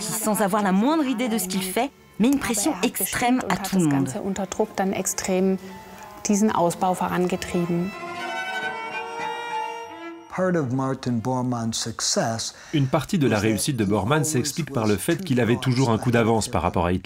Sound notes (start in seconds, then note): 2.7 German spoken audio